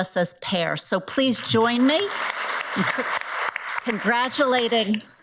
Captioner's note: audience applauds